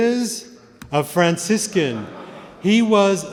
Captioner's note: laughter